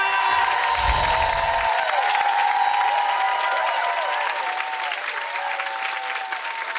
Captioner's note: crowd cheering; bright chimes